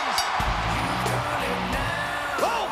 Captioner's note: bell rings